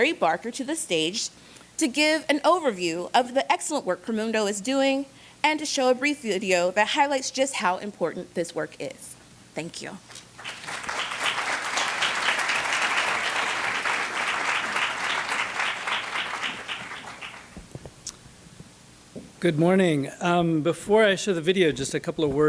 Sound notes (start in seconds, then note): 10.3 applause